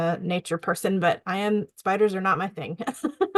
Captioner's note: laughs